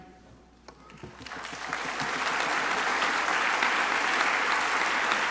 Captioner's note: crowd applauding